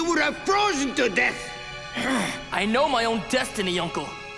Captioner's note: groaning